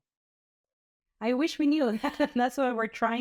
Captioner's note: laughter